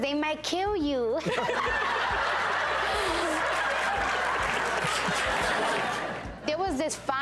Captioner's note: and hosts laughing; audience laughing